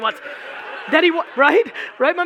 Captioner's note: audience laughing